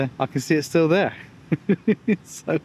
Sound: laughs

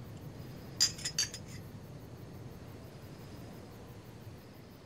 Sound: glasses clinking

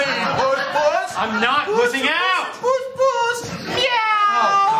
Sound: mockingly

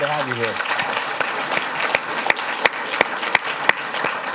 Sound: audience claps

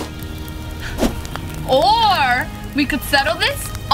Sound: fire crackling

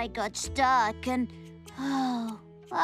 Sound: sigh!

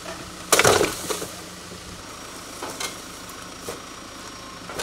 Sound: wood planks clanking

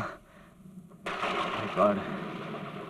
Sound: thunder crashing

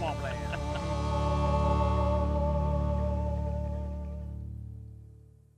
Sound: laughing

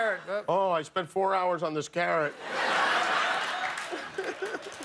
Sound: laughter

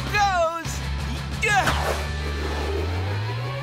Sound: grunting

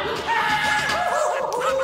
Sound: distant Goofy alarmed yelling

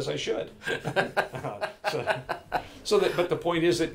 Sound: laughing loudly

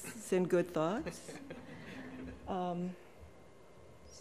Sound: chuckling

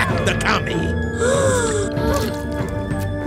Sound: gasps

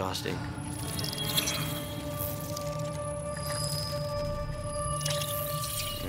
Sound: bug chittering

